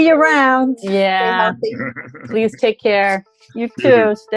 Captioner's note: laughs